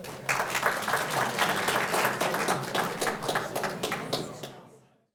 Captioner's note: audience applauding